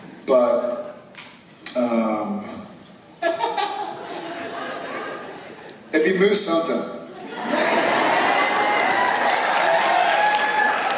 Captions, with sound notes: but, um... [Laughter] It would be "moose" something, [Applause and cheers]